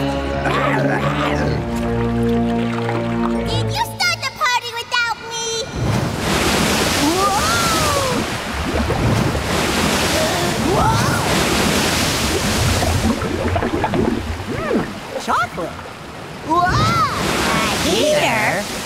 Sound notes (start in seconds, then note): 0.4 groaning; 12.1 bubbling